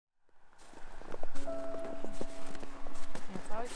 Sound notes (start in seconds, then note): 0.5 snow crunching; 1.3 soft music